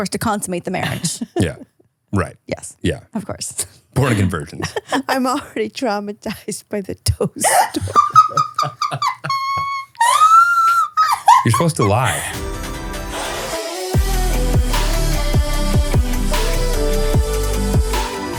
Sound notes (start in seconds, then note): 7.4 all laughing; 11.4 bright pop music